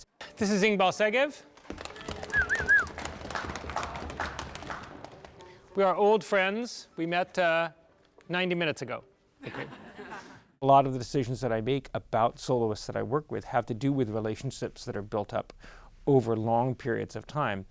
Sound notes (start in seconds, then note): 1.6 whistles and applause